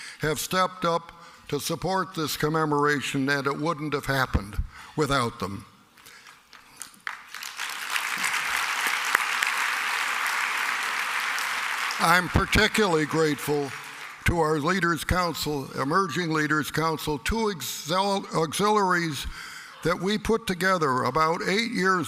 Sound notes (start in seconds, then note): 8.7 applause